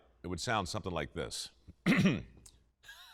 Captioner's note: clears throat